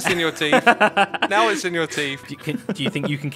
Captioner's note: laughs